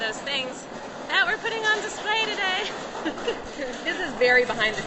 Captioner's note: laughs